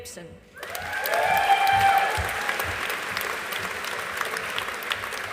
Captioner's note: audience applauding